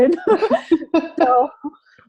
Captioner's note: laughter